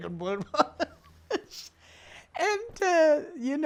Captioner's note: laughing